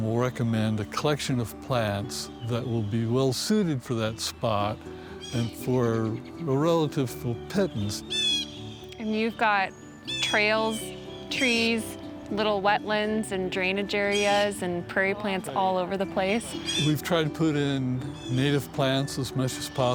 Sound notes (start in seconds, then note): 8.0 bird squawk